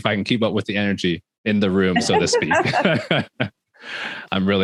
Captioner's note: all laughing